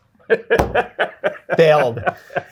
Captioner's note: guy laughing